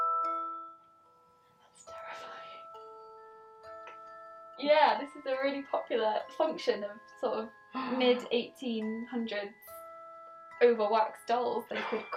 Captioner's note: laughter